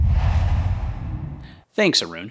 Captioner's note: logo swooshes